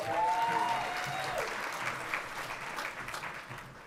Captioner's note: everyone cheering